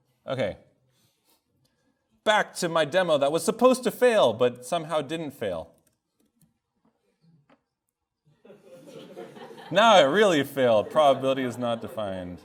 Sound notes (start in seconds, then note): 8.4 students laugh